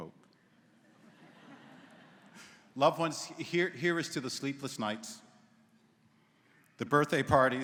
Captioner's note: laughter�